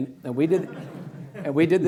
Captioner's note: laughing